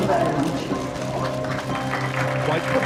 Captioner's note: sounds of clapping